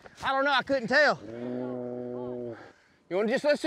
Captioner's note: mooing